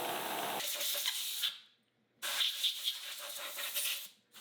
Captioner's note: water spraying